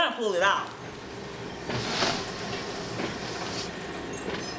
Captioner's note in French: ronronnement du caroussel à bagages